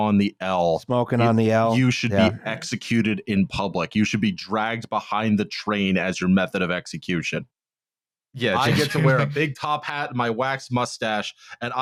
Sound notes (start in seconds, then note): 8.5 laughs